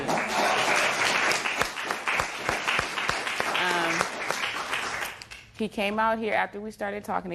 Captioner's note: applause